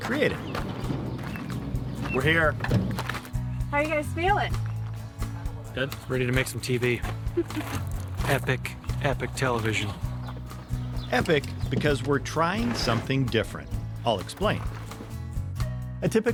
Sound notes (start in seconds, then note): 0.0 gravel crunching; 10.1 soft music; 14.9 soft music